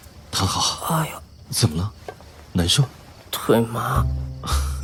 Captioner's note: groans